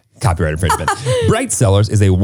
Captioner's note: laughing